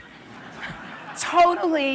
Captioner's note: laughter